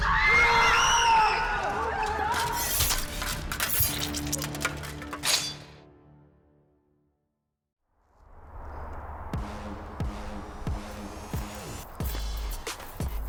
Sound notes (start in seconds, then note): 0.0 crowd screaming; 3.1 knife sheathing; 9.4 upbeat music